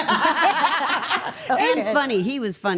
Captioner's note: everyone laughs